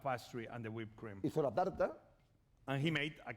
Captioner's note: speaking spanish